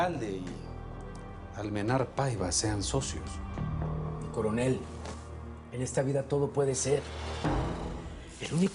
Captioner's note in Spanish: none